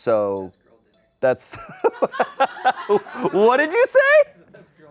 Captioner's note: laughs